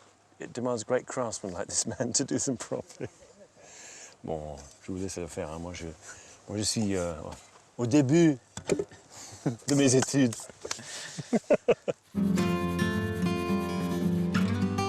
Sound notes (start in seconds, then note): 2.4 chuckling; 4.3 speaking in French; 10.9 laughing; 12.1 gentle guitar music